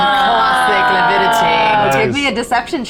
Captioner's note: players laughing